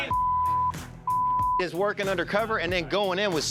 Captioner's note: beep